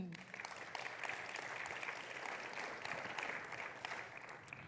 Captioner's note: audience applauds